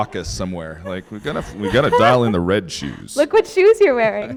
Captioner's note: laughter